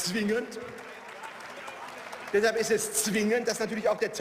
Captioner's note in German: Beifall